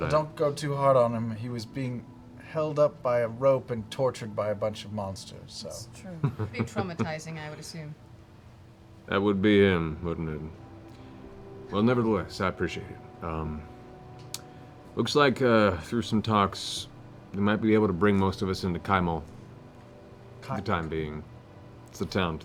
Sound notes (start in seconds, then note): 6.1 laughs